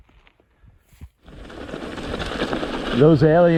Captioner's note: tires rumbling